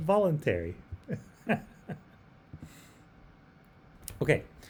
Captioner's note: laughs